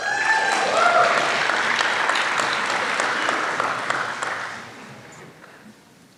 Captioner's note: applause